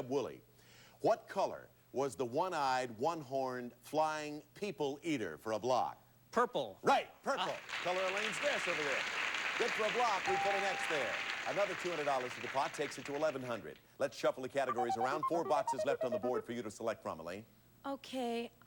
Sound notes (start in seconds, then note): 7.6 audience applauding